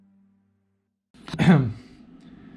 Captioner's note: ahem